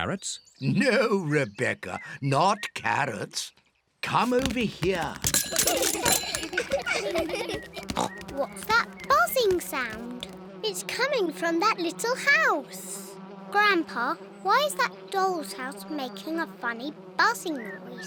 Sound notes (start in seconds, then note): 6.0 all laugh; 6.9 buzzing